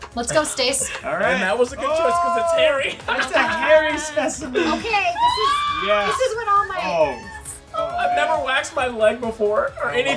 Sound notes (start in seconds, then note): 2.2 laughing